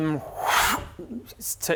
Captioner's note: woosh